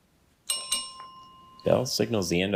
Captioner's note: bell dings